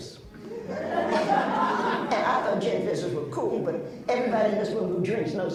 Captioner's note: laughs